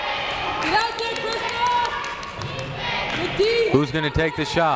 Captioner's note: woman speaking faintly amidst echo